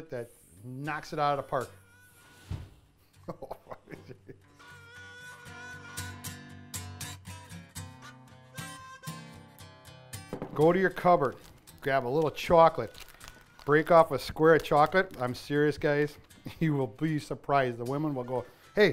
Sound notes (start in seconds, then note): 3.2 laughing; 8.6 country instrumental music